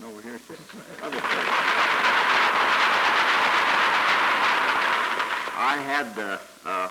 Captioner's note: applause